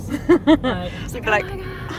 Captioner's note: laughter